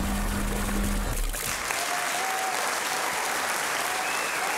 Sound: bubbling; audience clapping

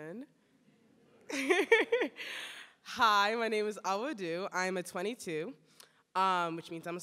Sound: laughs

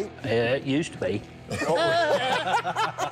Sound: laughter

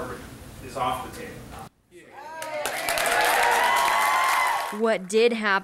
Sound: cheering

